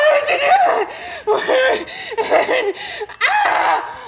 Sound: heavy breathing; screaming

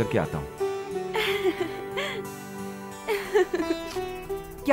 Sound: laughs

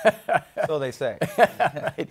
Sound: laughing

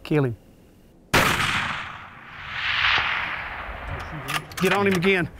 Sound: gun fires; metal clicking

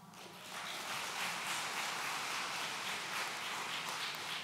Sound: audience applauds

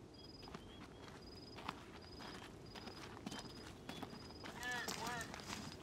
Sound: footsteps crunch

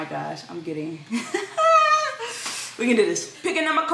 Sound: laughs

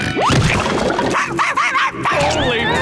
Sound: barking

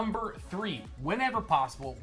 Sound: none

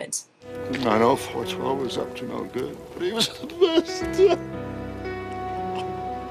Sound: sobs

